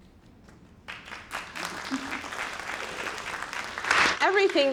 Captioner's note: audience clapping